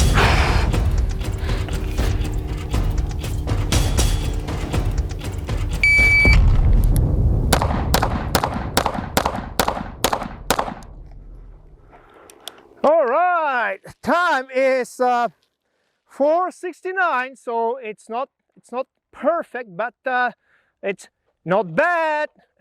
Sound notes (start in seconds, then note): 0.2 upbeat brooding music; 5.8 signal beeps; 7.5 gun popping